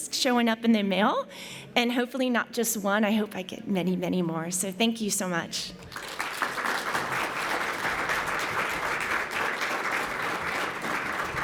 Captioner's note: applause